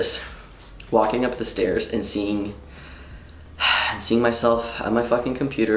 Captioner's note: exhales